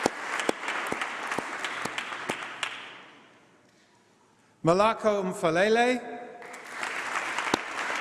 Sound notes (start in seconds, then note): 0.0 applause; 6.4 applause